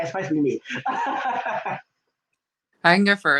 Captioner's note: laughing